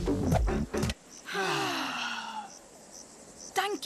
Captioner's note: all gasp